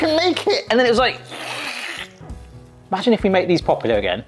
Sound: slurping

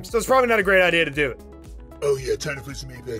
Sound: voice tone change

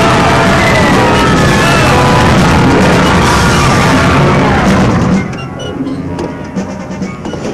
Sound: worshipers yelling; dramatic music

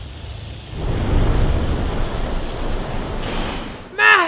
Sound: snake slithering

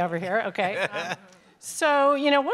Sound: laugh

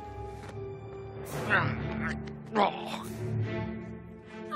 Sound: Minos grunting

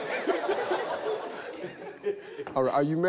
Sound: all laughing

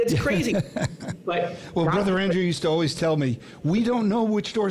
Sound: laughs

